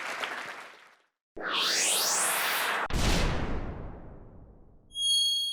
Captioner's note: audience applauding; logo whirring